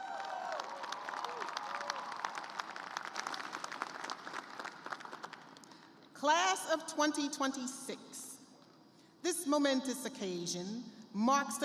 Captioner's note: cheers and applause